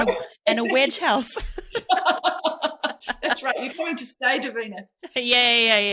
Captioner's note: laughs